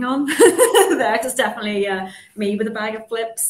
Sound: chuckles

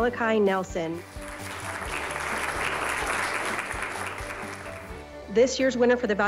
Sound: applause

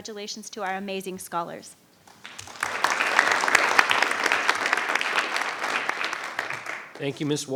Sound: applause

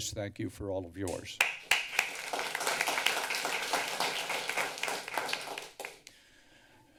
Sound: applause

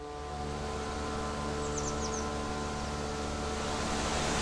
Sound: nature sounds

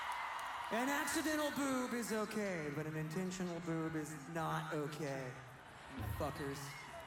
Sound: applause

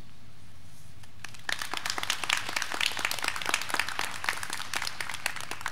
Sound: graduands clapping

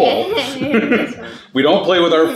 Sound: chuckles

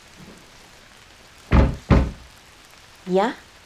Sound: thumps on the floor, which makes a hollow noise

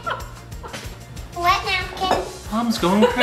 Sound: mom laughing

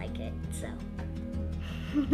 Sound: giggles

